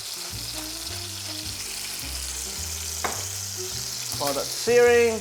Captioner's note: sizzling sound